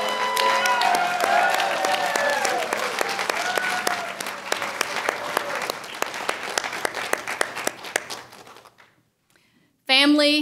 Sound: applause

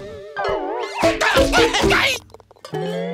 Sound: yelling

